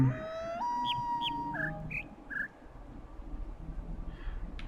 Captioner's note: coyote howls ˩˧˥˥ ˧; bird chirps five notes